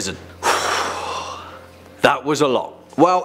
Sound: sigh

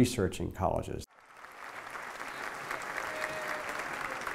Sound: clapping

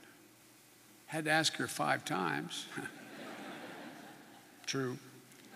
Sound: laughter

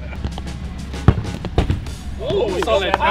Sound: laughter; punting ball; cheering

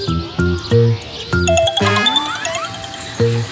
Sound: incoming call

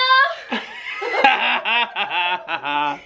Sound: laughs

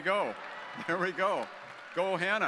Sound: audience cheering

